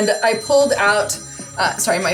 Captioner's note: phone ringing